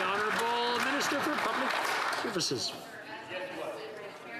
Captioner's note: some Applause